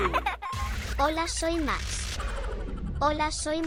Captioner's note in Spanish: Risas